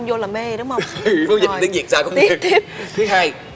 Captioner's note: laugh